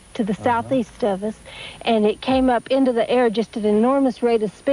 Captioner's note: none